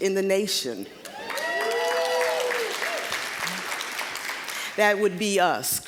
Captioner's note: applause, cheering